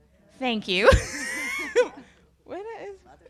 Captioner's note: laughs